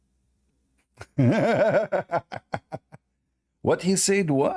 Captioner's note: Ketawa